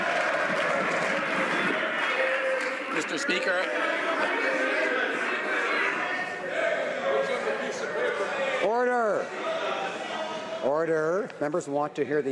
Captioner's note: some Applause